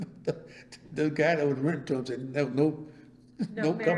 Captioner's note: laughs